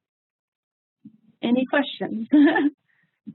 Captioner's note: laughs